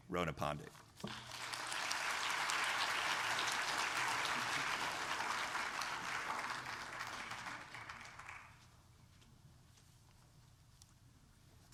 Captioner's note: applause